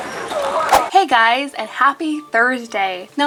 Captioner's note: whooshing